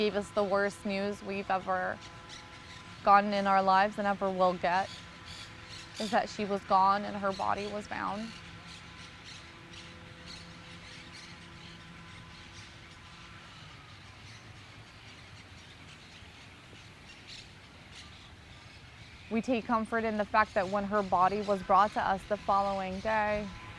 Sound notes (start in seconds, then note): 8.5 pauses 10 seconds